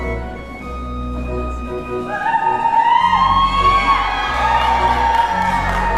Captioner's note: crowd ululating; crowd cheering